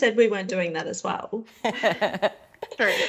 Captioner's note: all laughing